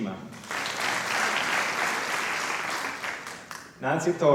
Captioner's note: applause